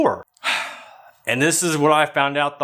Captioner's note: sighs